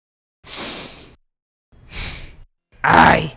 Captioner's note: deep breath